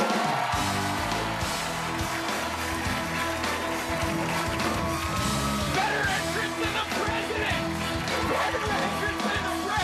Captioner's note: cheers and applause